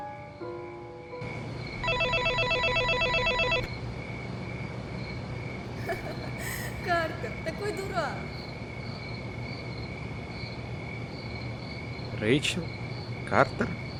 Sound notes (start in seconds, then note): 5.6 laugh